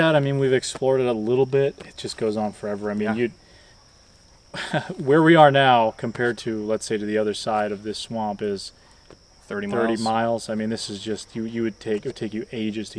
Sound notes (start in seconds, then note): 4.5 laughs